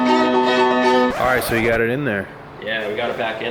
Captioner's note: record Scratch